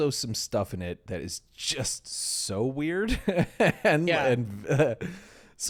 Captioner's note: laughing